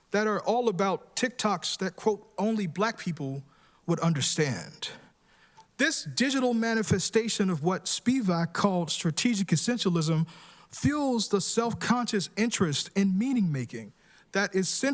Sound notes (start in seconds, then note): none